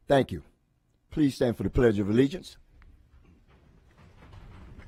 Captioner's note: moment of silence